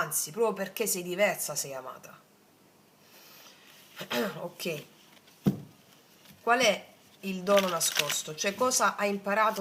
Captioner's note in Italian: schiarire la voce